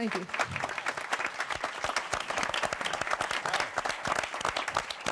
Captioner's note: applause